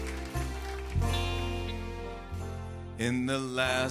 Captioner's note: bells jingling